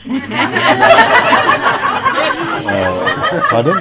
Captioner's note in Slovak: Smiech